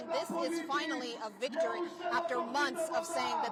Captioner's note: crowd chanting